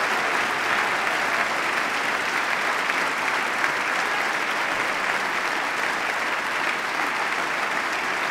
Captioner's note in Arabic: تصفيق